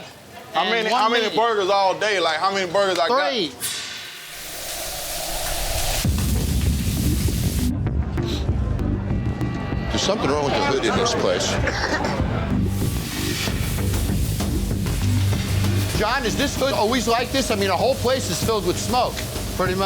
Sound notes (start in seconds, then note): 3.6 grill sizzling; 4.4 dramatic suspenseful music; 11.6 Jon coughs